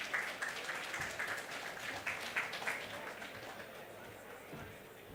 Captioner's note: audience applauds